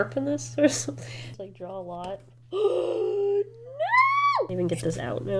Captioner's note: gasps